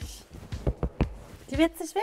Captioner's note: Klopfen